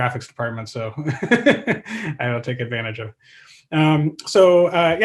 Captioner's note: laughs